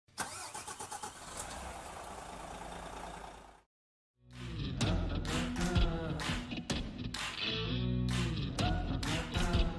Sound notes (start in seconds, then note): 0.2 engine roaring; 4.3 upbeat music